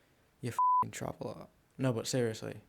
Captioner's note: beep